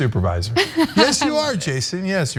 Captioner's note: laugh